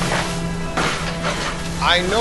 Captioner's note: dramatic crash